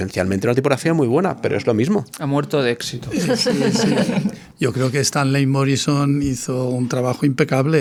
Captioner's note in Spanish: risas